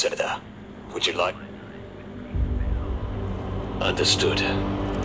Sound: muffled voice

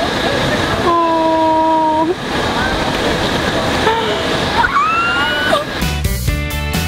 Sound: squeels

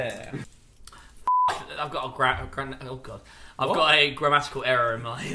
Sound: beep

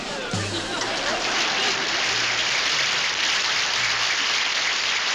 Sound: audience applauds

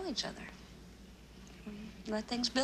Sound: sighing

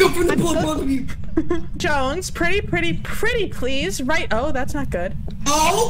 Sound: giggles

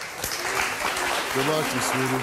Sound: audience claps

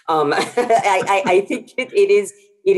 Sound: chuckles

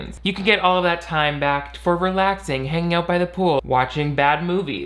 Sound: none

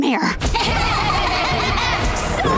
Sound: laughing

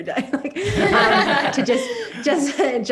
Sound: all laugh

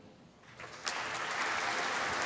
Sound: applause

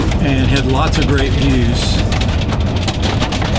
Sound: hail pattering

